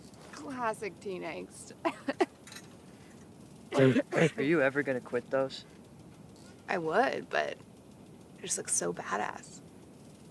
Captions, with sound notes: Classic teen angst. - [coughs] - Are you ever going to quit those? I would, but they just look so badass.